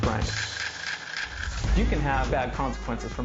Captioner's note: grinding